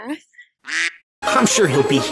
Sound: quack; sneaky music

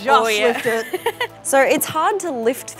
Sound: laughs

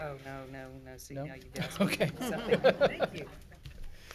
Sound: laughs

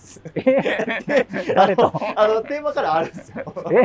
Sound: laughing

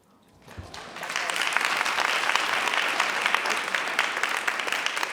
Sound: audience applauds

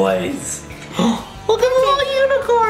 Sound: gasping for air

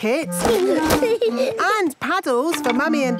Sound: giggling

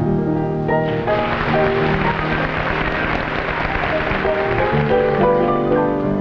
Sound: audience applauding

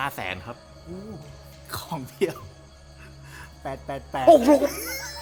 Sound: chuckles

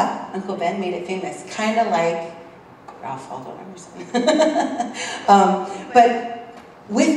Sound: laugh

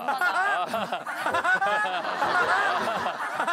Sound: laughing

